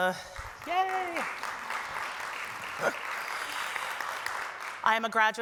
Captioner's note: applause